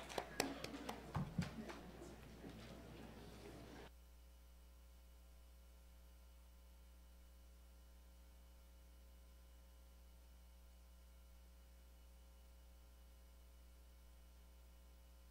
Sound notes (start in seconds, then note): 3.4 applause